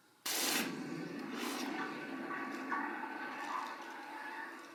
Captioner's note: hissing sound